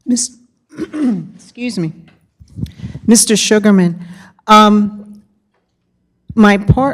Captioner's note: clears throat